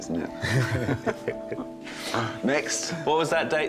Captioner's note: all chuckle